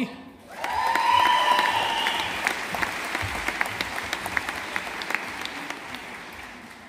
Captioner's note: audience applauding